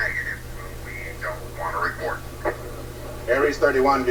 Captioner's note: man on Radio